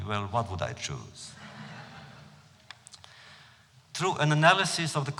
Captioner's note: laughter